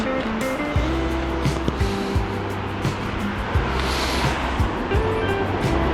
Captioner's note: wind Blowing